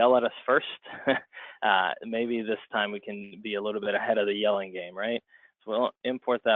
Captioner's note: chuckle